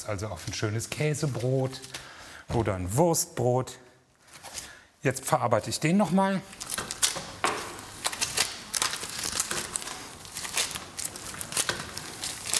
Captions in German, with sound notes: also auf 'n schönes Käsebrot oder 'n Wurstbrot. Jetzt verarbeite ich den noch mal. (Knistern)